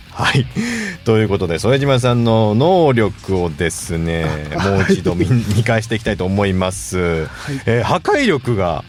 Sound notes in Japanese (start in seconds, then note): 0.8 笑い